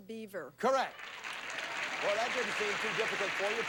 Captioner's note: audience applauding